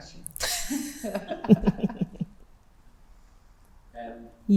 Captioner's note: both laughing